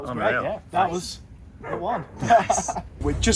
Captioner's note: laughs